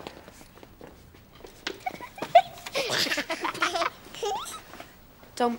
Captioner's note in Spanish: risas